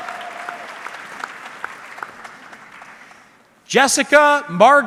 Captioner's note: audience clapping